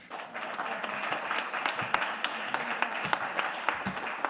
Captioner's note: audience clapping